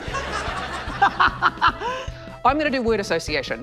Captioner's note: laughs